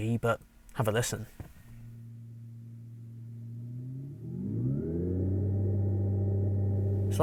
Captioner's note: car Revving